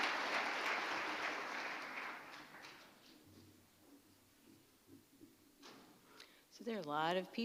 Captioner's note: applause